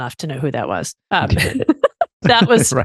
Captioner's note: laughs